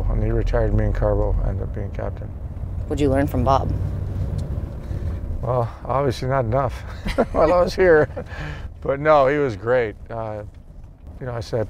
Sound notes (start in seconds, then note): 6.8 laughs